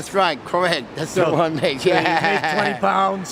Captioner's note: laughs